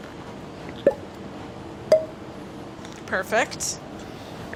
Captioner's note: corks popping